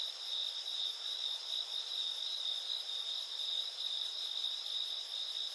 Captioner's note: crickets chirping continues